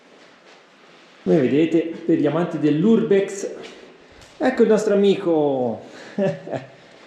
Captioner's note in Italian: risate